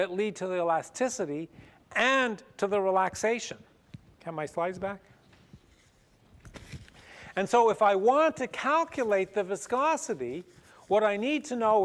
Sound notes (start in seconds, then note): none